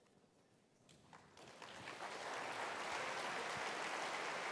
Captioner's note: applause